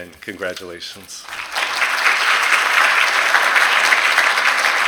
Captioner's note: applause